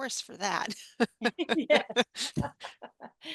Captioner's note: both laugh